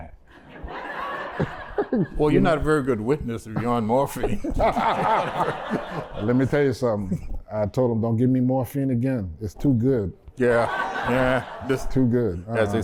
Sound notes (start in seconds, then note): 0.3 laughter; 3.5 laughter; 10.5 laughter